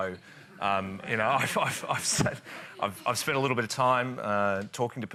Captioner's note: laughs